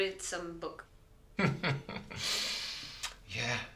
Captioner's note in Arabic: يضحك